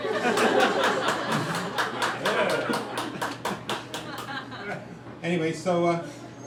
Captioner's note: crowd laughing and applauding